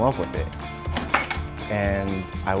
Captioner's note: metal clinks